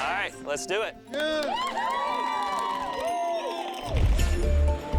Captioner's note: cheering